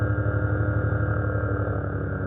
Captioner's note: engine revs up